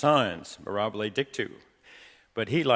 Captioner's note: speaking in foreign language